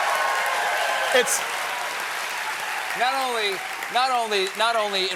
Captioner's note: cheers and applause